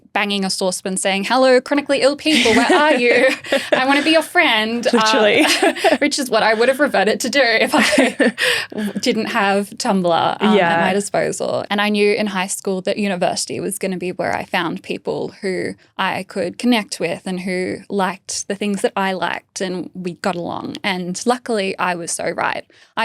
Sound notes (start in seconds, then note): 2.2 laughing; 7.7 laughing